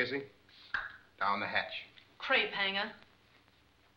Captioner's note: clicks tongue; Casey mumbles